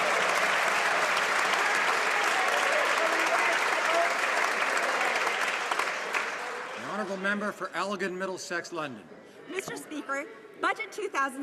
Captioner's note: some Applause